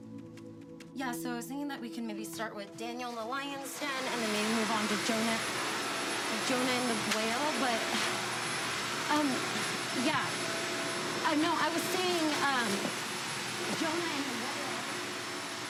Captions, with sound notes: Yeah, so I was thinking that we can maybe start with Daniel and the Lion's Den, and then maybe move on- (vacuum whirring) to Jonah, Jonah and the Whale, but, um, yeah. Uh, no, I was saying, um, Jonah and the Whale.